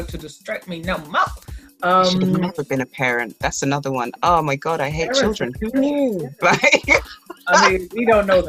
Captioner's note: laughs